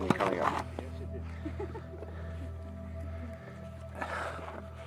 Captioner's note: speaker laughs